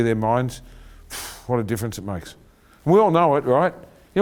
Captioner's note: exhales